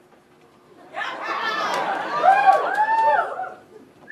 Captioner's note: audience cheers